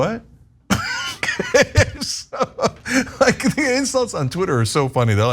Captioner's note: laugh